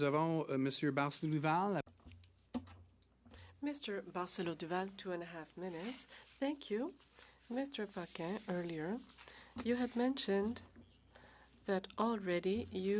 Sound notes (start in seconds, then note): 5.9 speaking French